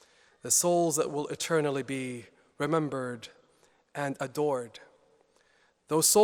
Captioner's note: none